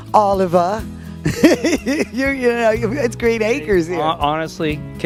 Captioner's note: laughing